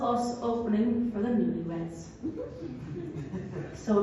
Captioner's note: laughter